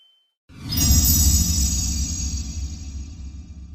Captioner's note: logo swooshes